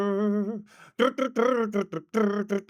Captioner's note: humming